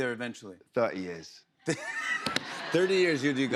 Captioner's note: laughter